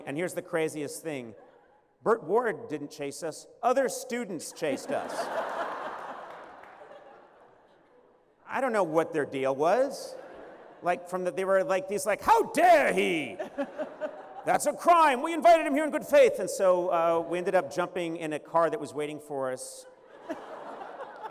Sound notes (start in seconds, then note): 4.6 laughter